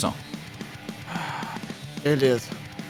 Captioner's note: sighs of relief